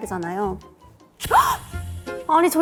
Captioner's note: in a theatrical tone